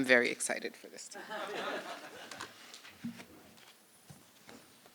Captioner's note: laughter